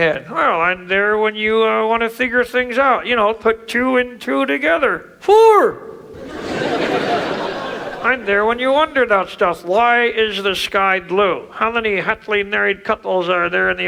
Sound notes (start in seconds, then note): 5.9 audience laughs